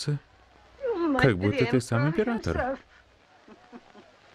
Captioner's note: chuckle